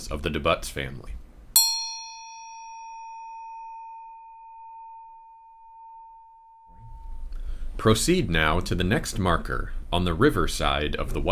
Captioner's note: A bell sounds